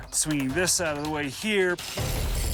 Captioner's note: whirring